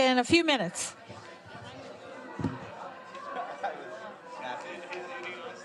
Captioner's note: audience chatting